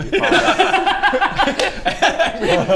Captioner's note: stone cold laughter